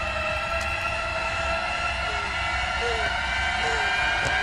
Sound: scared breathing

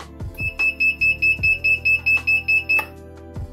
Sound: buzzer sound

